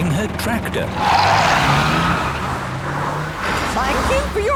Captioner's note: tires screeching